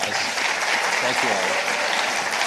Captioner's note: participants applauding